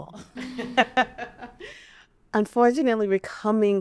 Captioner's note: women laughing